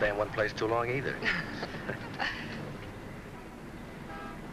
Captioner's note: both chuckling